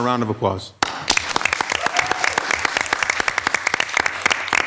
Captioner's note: audience applauds